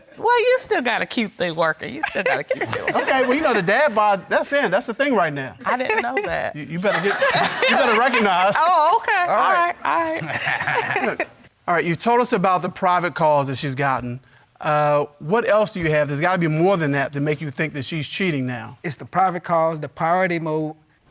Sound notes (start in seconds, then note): 10.0 chuckling